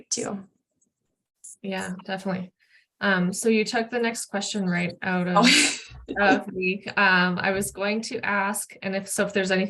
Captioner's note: laugh